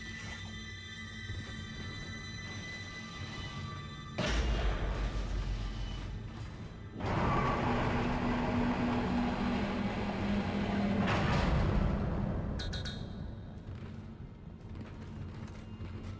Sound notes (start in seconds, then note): 0.3 dramatic music; 3.5 gunshots; 7.0 dramatic music